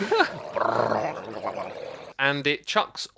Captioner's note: chuckles; making drowned noises